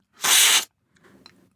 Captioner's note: slurp